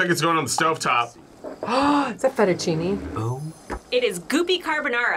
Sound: gasps

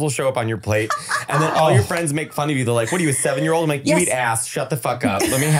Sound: foreign language

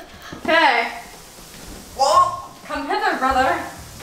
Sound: dry retching

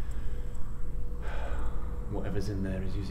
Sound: sighs

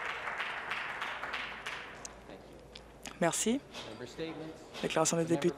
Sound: applause

